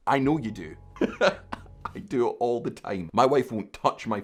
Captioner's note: laughing